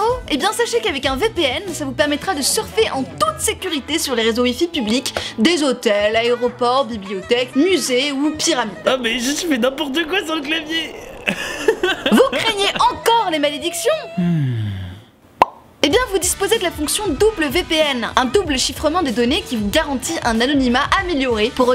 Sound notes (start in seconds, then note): 11.8 laugh; 14.0 woman sighs